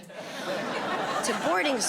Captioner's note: audience laughing